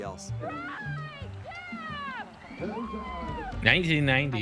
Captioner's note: cheering